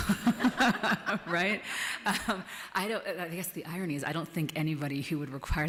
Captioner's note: laughs